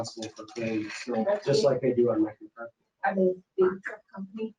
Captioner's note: speaking faintly